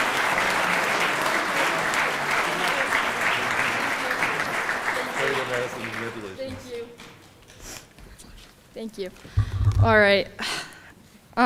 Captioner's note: applause